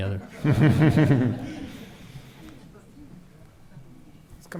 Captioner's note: laughing